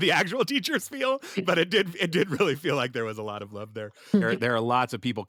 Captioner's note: laughter